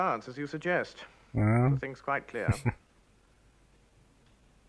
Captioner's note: chuckling